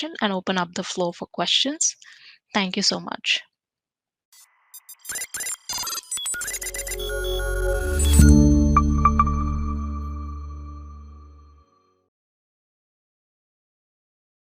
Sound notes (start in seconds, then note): 4.4 soft electronic music; 4.8 beeping